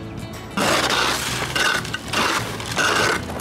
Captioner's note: scraping